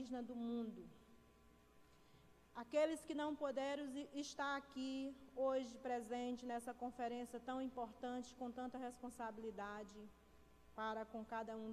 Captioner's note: speaking foreign language